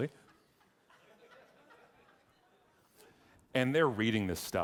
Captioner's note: audience laughing